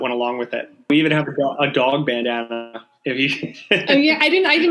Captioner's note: laughing